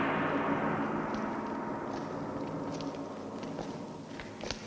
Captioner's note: gong banging